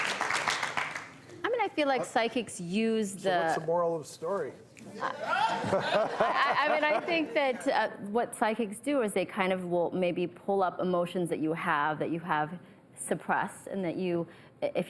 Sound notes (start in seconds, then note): 4.9 laughter